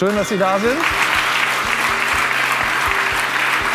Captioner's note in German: Applaus